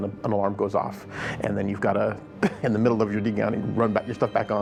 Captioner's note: laughs